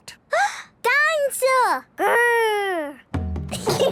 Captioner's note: gasps; children giggling